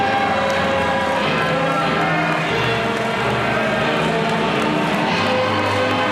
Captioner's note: audience applauding and cheering